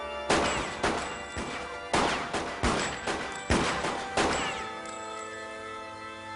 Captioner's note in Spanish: Disparos